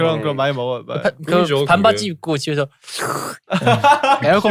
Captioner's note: slurp